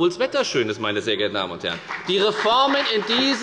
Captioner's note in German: Beifall bei der FDP